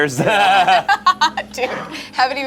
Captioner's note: group laughing